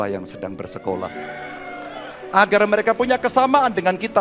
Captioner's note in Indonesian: tepuk tangan